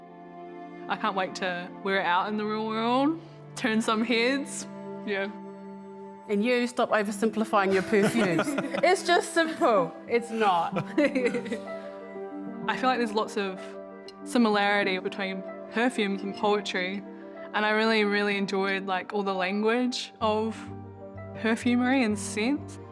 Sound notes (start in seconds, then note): 7.7 laughs